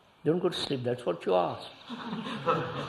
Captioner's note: laughter